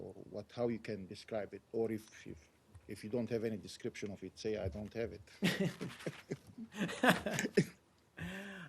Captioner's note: laughter